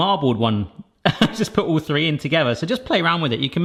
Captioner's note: chuckles